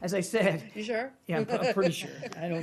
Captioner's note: laughter